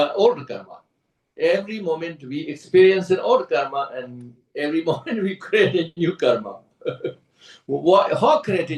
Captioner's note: laughs